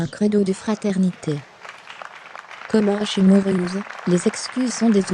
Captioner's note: audience applauding